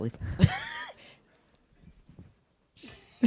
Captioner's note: laughing